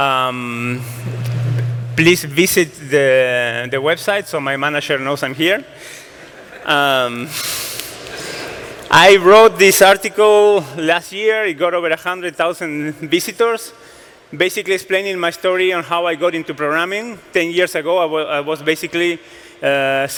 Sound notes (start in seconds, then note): 6.2 laughter